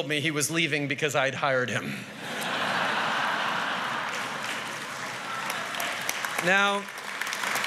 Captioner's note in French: Rires et applaudissements